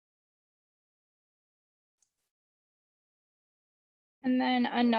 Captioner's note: silence